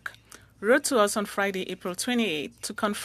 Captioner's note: speaking French